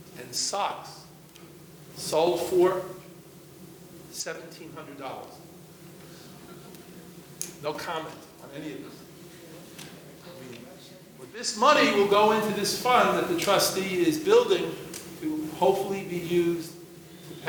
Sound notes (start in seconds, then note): 6.4 audience laughing